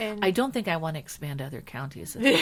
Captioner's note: laughing